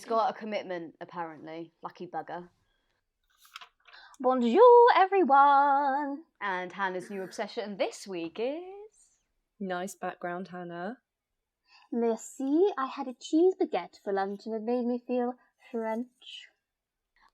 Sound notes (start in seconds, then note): 4.5 sing-song voice